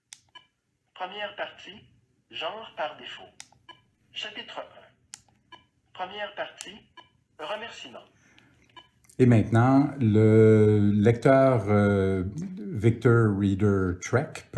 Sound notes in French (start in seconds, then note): 0.3 l'appareil émet un bip; 5.4 l'appareil émet un bip; 8.7 l'appareil émet un bip